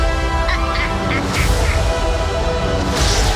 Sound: evil laughter

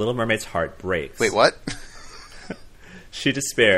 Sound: laughs

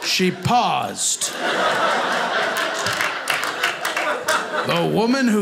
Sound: audience laughing

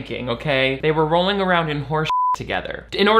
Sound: beep

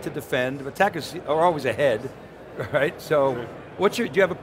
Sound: chuckles

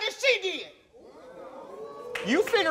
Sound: audience oohs

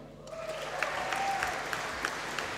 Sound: applause

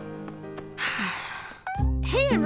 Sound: sigh

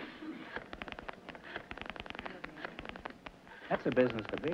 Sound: static

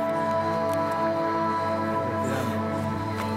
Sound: breath

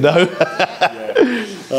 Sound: laughs

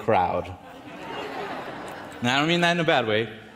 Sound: audience chuckles

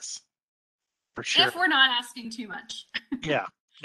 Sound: chuckles

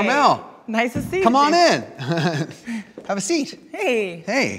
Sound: laughs

